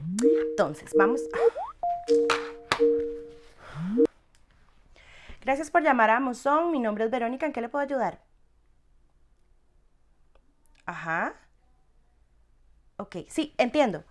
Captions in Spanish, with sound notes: entonces vamos a... [sonido de llamada en la computadora] Gracias por llamar a Amozón. Mi nombre es Verónica, ¿en qué le puedo ayudar? Ajá. Ok, sí, entiendo.